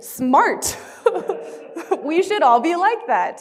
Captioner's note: all laughing